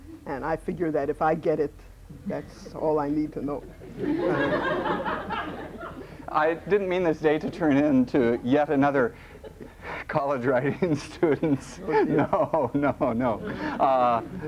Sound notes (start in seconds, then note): 3.7 laughter